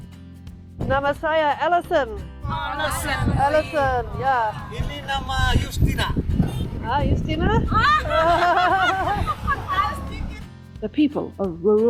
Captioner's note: much laughing